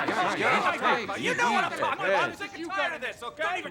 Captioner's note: quarreling